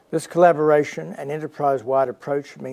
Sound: none

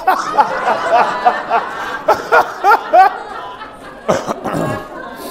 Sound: laughter

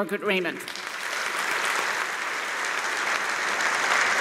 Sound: applause

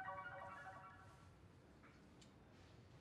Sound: computer beeps

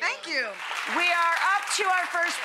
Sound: audience clapping

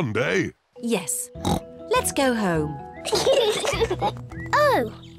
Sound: kids giggle

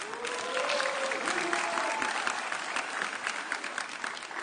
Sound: audience cheering

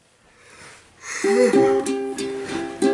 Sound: yawn; ukulele strumming

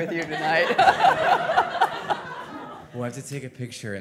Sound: all laughing

